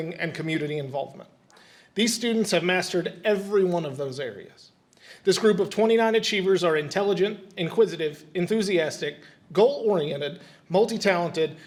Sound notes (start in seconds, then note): none